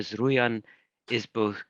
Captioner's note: speaking in foreign language